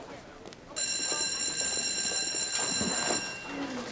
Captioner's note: bell ringing